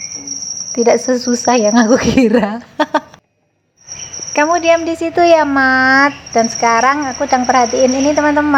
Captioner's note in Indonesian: tertawa